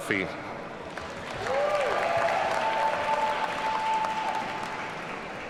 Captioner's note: audience cheering